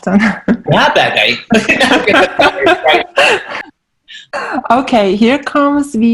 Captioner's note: laughing